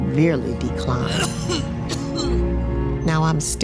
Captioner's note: coughing